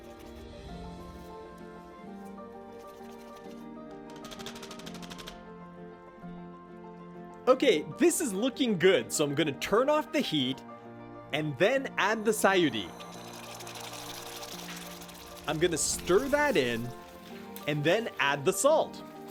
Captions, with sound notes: (soft music) Okay, this is looking good. So I'm gonna turn off the heat and then add the sayuri. (mixture simmering) I'm gonna stir that in and then add the salt.